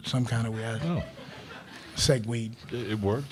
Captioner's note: crowd laughing